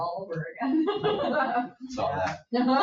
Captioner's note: people laugh